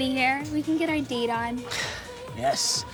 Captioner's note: sighs